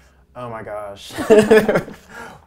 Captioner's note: laughing